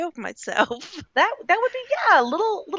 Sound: laughing

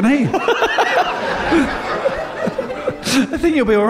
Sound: laughter

